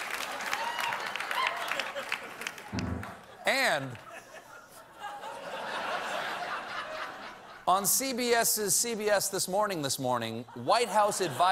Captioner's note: applause